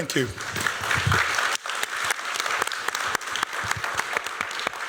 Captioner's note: applause